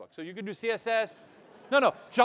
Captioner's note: audience laughing